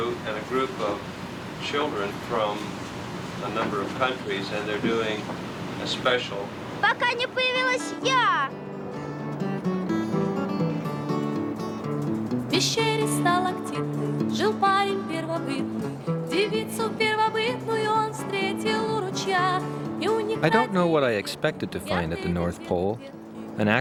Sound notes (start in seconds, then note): 6.8 child speaking foreign language; 9.7 upbeat music; 12.5 children singing in foreign language